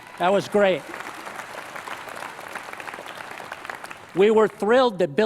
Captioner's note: applause